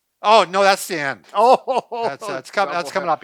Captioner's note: laughs